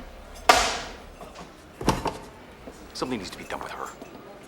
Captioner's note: thwapping